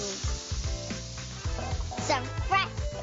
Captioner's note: pan sizzling